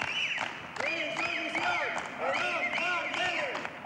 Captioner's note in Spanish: palmas, silbatos. gritan consignas